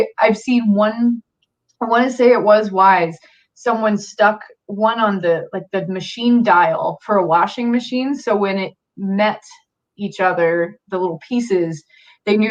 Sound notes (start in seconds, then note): none